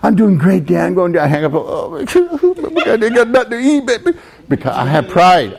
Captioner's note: cries